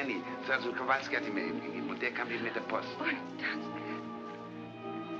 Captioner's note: speaking in German